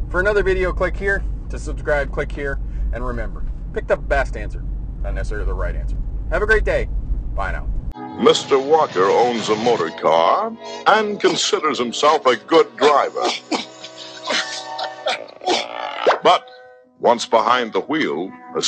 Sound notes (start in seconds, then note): 14.9 groaning